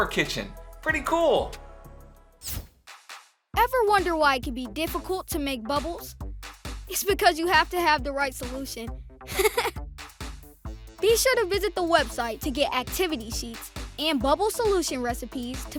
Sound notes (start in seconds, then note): 0.0 bright upbeat music; 9.3 chuckles